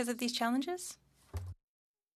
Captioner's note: speaking French